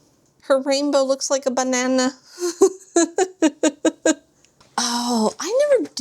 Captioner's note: laughs